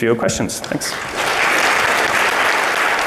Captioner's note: audience applauds